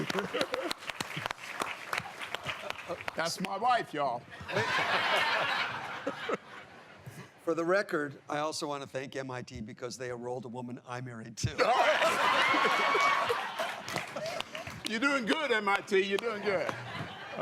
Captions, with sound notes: That's my wife you all. [LAUGHTER] For the record, I also want to thank MIT because they enrolled the woman I married too. [LAUGHTER] You're doing good, MIT. You're doing good.